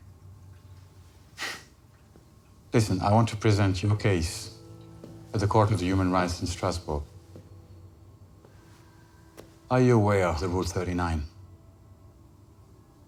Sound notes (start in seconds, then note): 1.2 scoffs